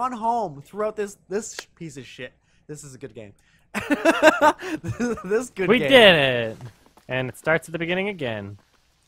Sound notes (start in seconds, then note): 3.8 laughs